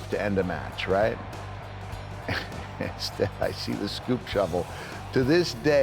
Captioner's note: laugh